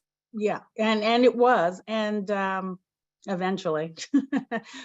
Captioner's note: chuckles